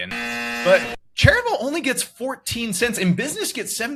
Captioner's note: buzzer